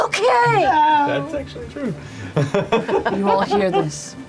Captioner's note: laughs